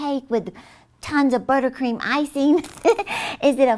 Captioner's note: chuckles